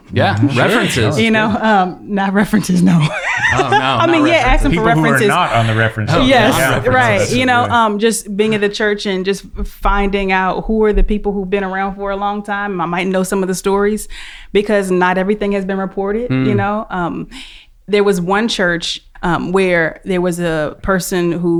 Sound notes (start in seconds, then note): 2.5 laughing